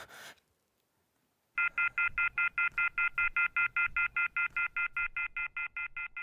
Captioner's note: phone off the hook tone beeping